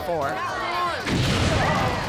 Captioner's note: crowd yelling; flames erupt